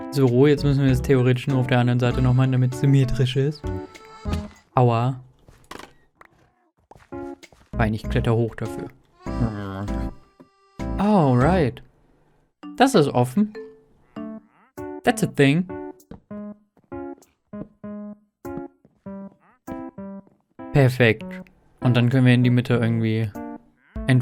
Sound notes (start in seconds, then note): 9.7 angry grumbling